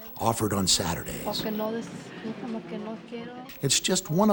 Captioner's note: speaks Spanish